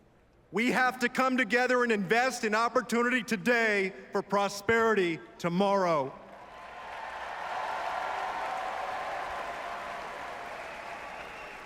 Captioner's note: applause